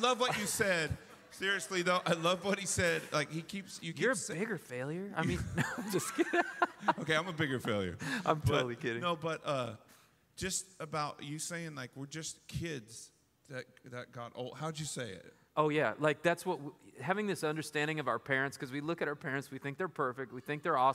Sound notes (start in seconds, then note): 5.2 laughter